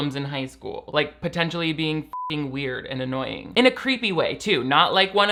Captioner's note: beep